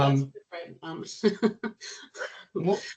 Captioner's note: chuckling